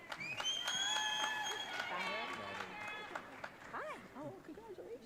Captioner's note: audience cheering